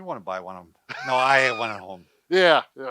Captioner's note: laughs